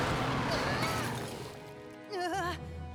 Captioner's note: growls